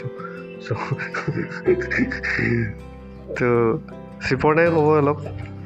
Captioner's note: laughing